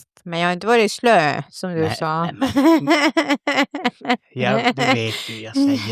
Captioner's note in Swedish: skratt